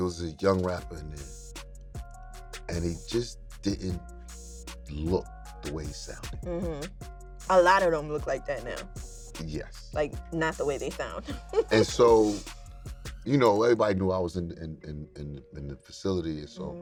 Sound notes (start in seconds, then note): 11.2 chuckles